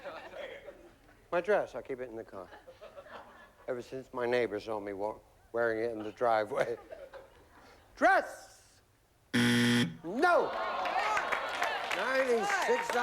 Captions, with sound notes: MY DRESS. I KEEP IT IN THE CAR. EVER SINCE MY NEIGHBORS SAW ME WEARING IT IN THE DRIVEWAY. DRESS! [BUZZER] NO! 96 UP THERE.